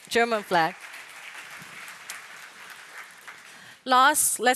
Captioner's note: applause